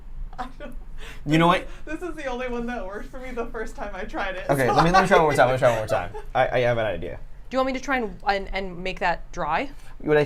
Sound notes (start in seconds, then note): 0.8 laughs; 4.6 laughs